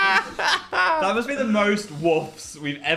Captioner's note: Dan laughs; Phil laughs